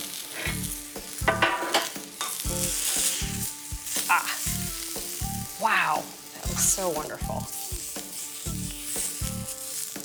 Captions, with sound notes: (pan clanking) Ah. Wow. That looks so wonderful.